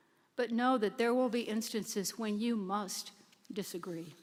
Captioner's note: none